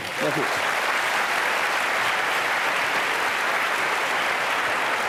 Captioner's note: applause